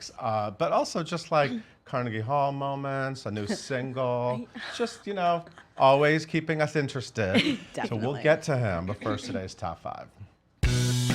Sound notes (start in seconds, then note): 7.2 laughs; 10.6 upbeat music